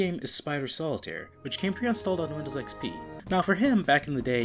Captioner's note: Windows XP startup sound